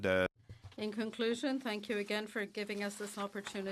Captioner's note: speaking French